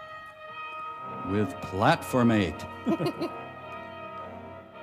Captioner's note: chuckles